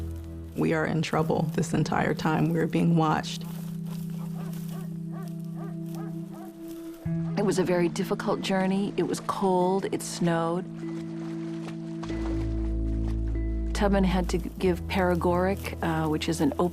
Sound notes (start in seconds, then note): 3.4 dogs bark; 3.8 footsteps in woods